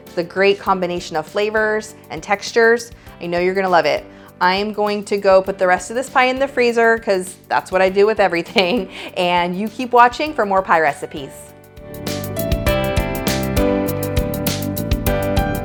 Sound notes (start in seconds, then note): 8.5 chuckles; 12.9 joyful music